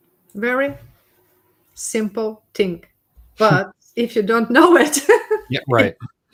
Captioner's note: laughs